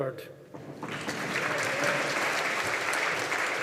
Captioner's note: audience applauding